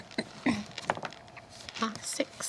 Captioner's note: dice rolls